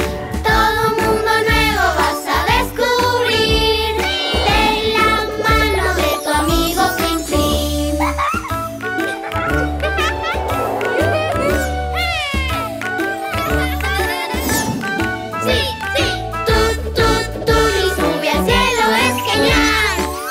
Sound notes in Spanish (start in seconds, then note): 7.8 Música Alegre; 9.0 Risas